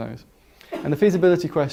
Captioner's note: cough